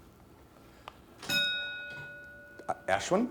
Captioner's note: bell dinging